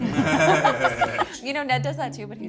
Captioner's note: laughter